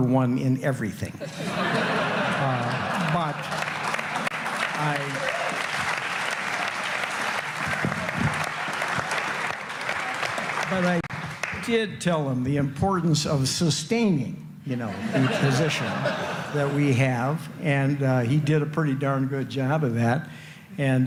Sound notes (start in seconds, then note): 4.6 laughter; 5.3 applause